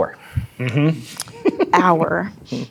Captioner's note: giggles